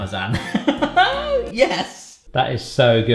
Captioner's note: laughs